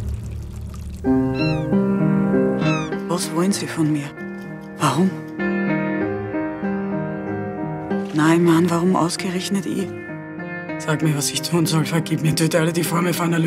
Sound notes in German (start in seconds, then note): 1.2 Möwenschreie